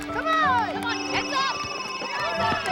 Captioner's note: ringing continues